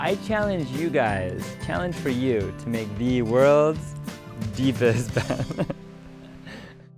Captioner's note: laughs